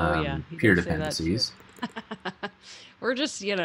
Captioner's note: chuckles